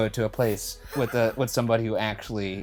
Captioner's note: chuckling